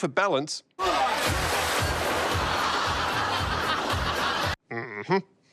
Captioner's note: laughter